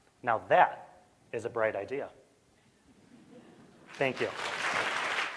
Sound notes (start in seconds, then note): 3.0 chuckling; 3.9 applause